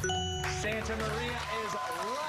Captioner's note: cheers and applause